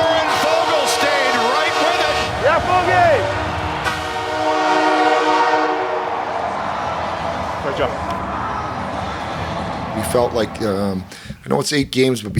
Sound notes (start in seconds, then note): 4.2 horn blares; 6.4 crowd cheers